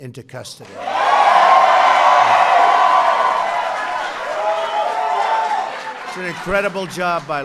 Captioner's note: applause